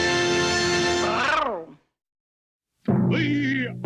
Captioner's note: growls